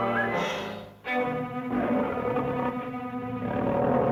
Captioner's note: dramatic music; cats growling